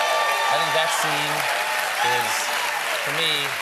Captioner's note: cheers and applause